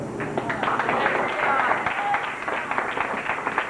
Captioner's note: applause